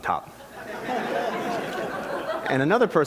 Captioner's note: laughter